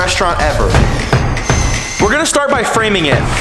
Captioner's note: drills whirring